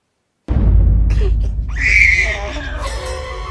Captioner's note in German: Babyschreien; Dramatische Musik